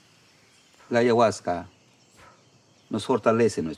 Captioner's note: speaks in foreign language